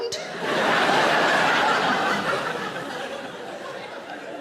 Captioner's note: audience laughing